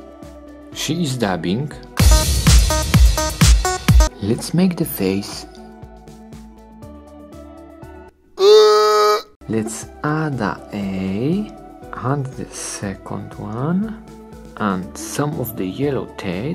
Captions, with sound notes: She's dabbing. (electronic dance music) let's make the face. (zombie groan) let's add a eye, and the second one. And some of the yellow teeth.